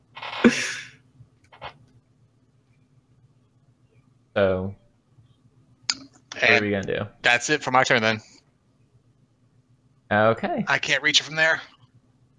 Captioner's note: laughter